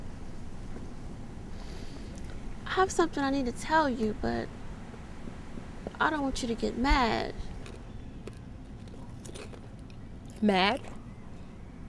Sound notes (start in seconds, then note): 7.4 crunches